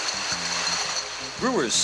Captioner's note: bottles rattle